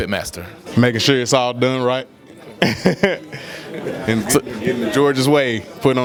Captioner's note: laughs